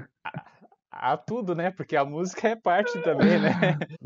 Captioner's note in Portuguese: risos